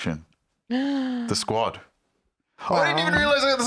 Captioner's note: gasps